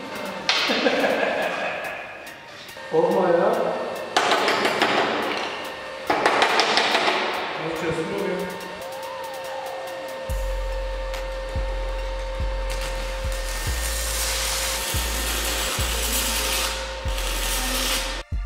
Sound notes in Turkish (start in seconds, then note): 0.5 Gülme sesi